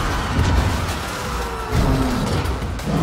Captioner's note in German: Schreie, Hupen, Monsterbrüllen